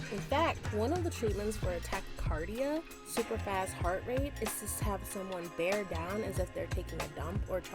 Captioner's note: super fast heart rate